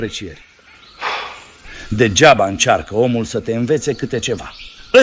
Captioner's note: sighs